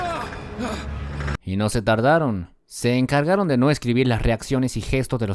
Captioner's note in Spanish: screams